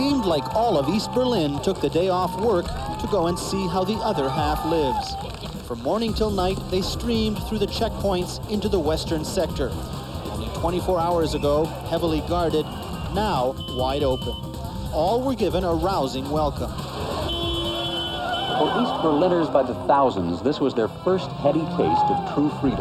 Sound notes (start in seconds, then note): 17.1 car horn beeps